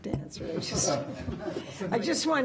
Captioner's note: laughter